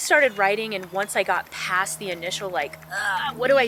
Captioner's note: ugghh